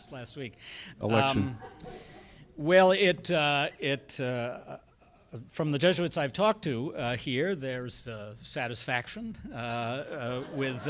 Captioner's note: laughter